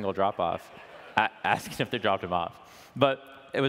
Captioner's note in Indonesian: Penonton Tertawa